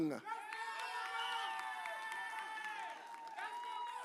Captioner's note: audience cheers